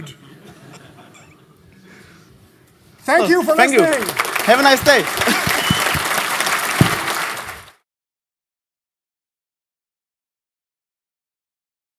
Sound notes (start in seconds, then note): 0.2 laughter; 5.5 applause